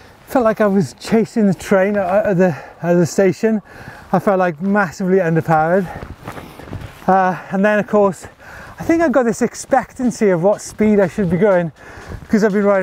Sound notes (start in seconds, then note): none